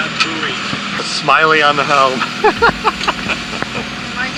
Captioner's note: laughs